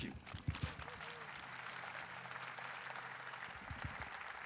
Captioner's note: audience applauding